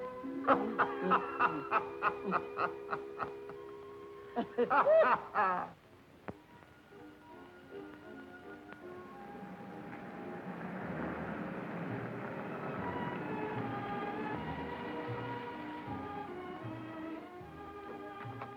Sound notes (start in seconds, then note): 0.3 Reno laughing; 8.6 car whirring; 9.2 pleasant music